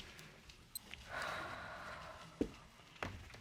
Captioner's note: sighs